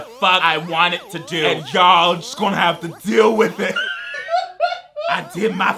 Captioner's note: laughs; alienated electronic music